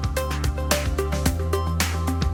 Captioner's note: applause